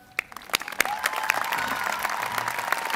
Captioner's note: applause